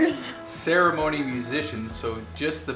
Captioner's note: male Voice